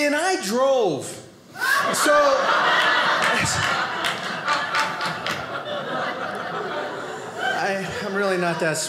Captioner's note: audience laughing